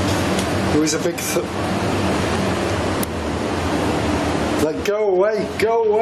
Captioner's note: ghostly whispering